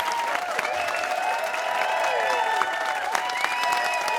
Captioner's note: cheers and applause